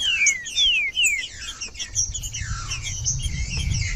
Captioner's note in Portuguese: trinca ferro cantando